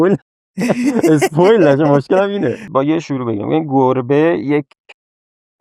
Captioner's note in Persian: خنده